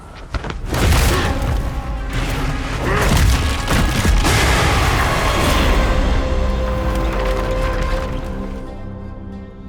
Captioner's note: impact and crunch